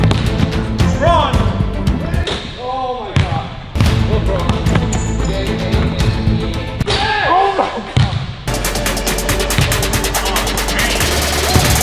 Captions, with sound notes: (ball bounces) (upbeat orchestral music) - Lebron! (ball hits rim) - Oh my gosh! (ball bounces) (upbeat orchestral music) - Yes! - Oh my God! (upbeat techno music)